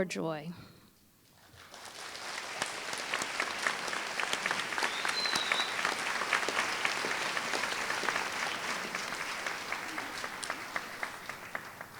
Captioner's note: applause